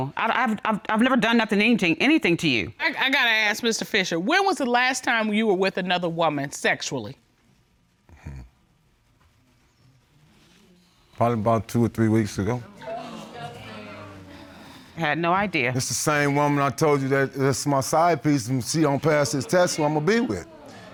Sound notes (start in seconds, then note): 7.8 scoffs; 12.8 audience exclaims